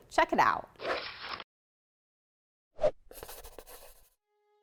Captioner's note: pen scratching